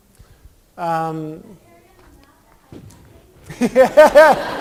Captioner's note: laughter